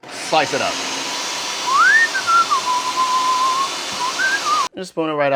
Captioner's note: whistling